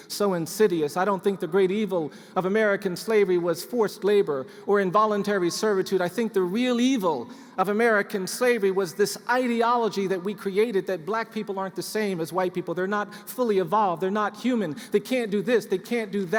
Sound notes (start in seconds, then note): none